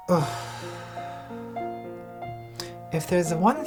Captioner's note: somber piano music; groans